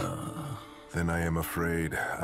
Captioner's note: sighs